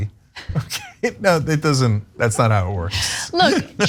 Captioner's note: laugh